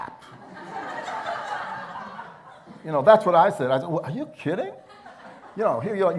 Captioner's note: laughter